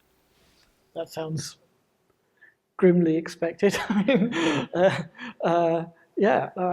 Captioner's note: laughs